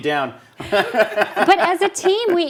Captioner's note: all laugh